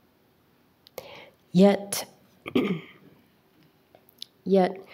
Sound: clears throat

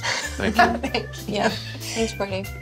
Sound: laughs

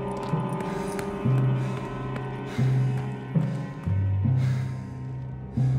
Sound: Minty breathing heavily

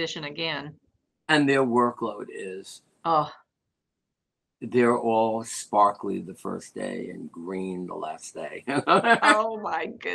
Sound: laughter

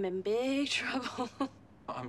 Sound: laughs

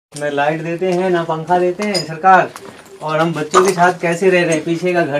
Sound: electricity

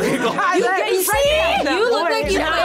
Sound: laughs

